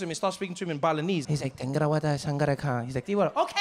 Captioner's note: mimics Balinese